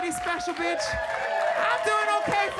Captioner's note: audience cheering